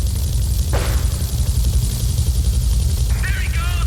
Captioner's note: plane engine roaring